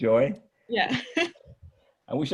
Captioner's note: chuckles